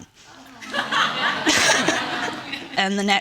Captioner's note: audience laughing